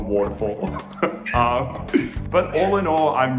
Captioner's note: laughs